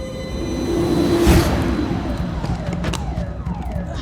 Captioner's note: alarm blaring